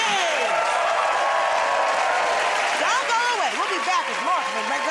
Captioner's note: cheers and applause